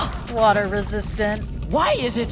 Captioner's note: Sokka gasps